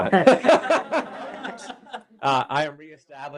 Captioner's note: laughter